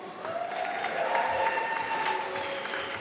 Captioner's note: applause